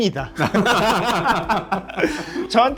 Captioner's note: laugh